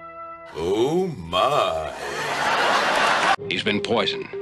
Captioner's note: canned laughs